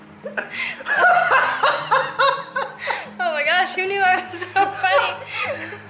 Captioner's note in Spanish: Risas